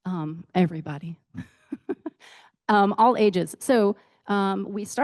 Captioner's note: laughs